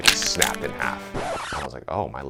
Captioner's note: record scratches